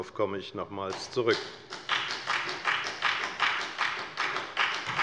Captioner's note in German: Beifall bei der FDP